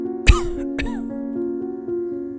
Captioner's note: coughs